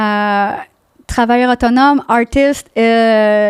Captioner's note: in french